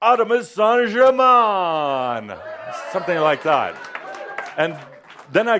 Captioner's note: some audience approval